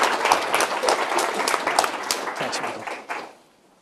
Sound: applause

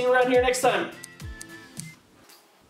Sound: snip snip snip

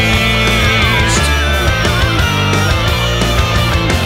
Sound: bird screaming

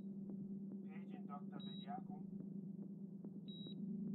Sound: beeping continues; voice over PA

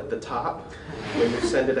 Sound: laughter

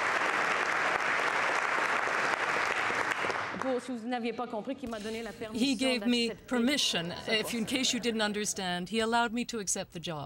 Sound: applause

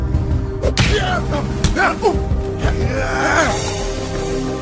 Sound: men grunting

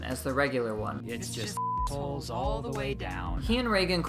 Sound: beep

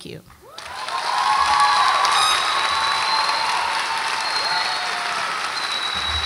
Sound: audience applauds and cheers

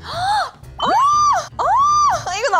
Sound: squeal of happiness

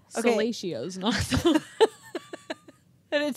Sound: chuckling

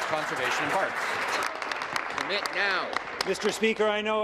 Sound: applause

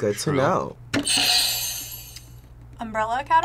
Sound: bell rings

